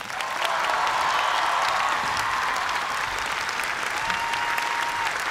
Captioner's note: cheers and applause